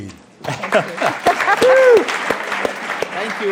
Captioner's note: applause